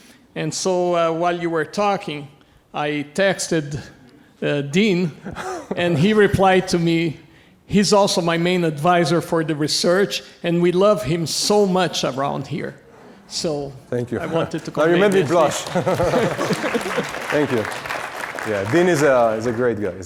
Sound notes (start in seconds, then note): 14.1 laughs; 14.2 audience applauding